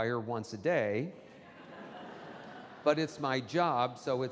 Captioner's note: audience laughing